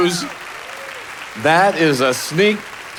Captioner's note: audience applauding